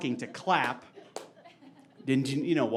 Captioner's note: clapping